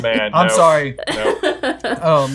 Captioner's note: laughing